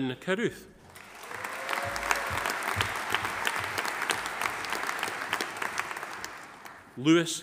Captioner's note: audience applauding; audience cheering